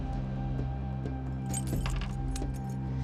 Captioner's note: keys jangling